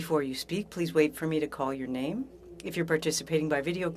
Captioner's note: speaking French